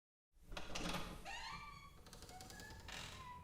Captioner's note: door creaks